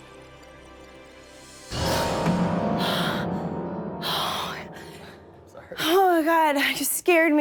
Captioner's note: sighs